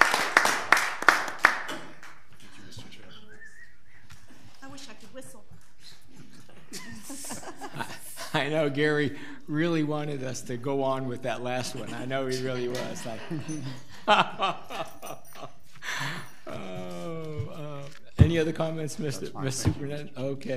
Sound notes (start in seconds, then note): 6.4 audience laughing; 15.0 laughing